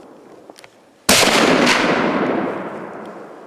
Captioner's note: gunshot